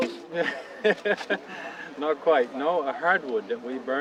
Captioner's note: chuckles